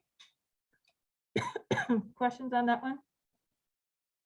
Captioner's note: coughing